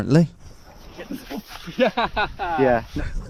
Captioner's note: laughing